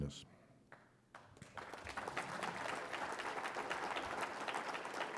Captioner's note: applause